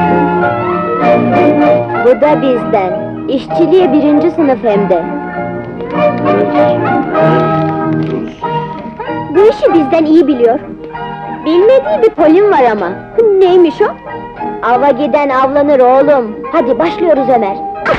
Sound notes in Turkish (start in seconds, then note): 6.2 Para sayma mırıltısı